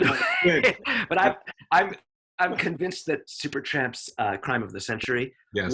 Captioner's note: chuckles